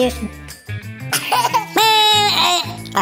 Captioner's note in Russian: ребёнок смеётся